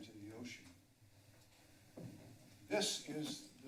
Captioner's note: pause